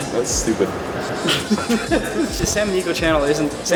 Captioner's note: laughs